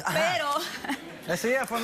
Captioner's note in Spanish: risas